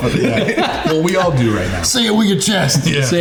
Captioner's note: all laughing